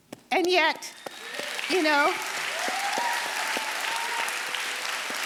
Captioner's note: audience applauding